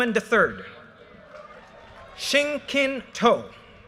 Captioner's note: audience cheers and applause